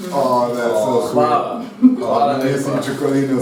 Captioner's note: in Slovene